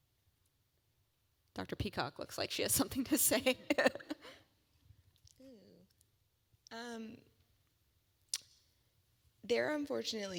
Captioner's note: laugh